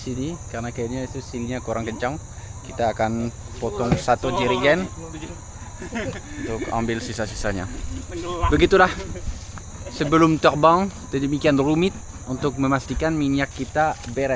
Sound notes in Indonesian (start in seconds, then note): 6.3 tertawa